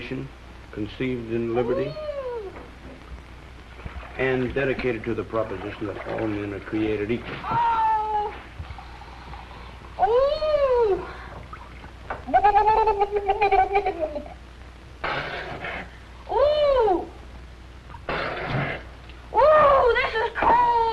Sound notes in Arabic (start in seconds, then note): 15.0 غرغرة; 15.0 بصق; 18.0 بصق